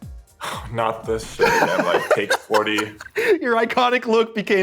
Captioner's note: laughs